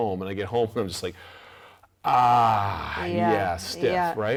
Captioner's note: groans